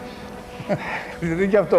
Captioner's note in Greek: γέλια